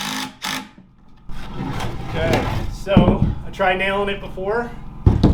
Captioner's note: saw whirring